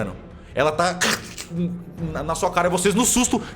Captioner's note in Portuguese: Som de mordida